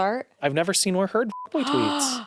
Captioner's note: beep; gasps